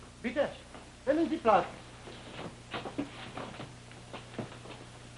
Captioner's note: speaks German